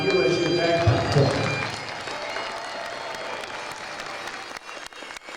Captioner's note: cheering and applause